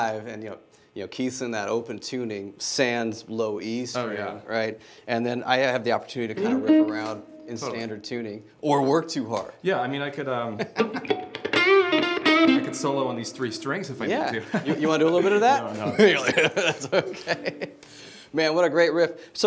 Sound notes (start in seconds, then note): 10.8 strums guitar; 17.4 laughter